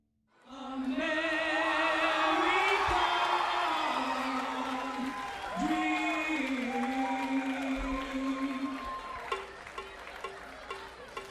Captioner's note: crowd cheering